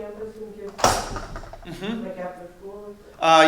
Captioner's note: loud slam